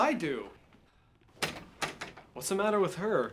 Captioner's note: door clicks shut